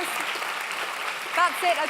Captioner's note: clapping